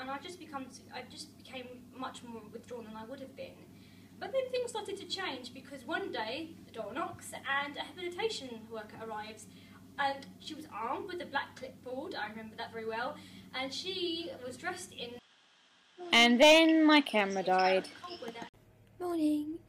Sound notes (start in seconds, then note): 15.6 voiceover